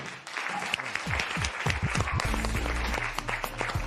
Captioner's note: applause